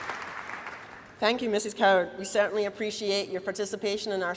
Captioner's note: applause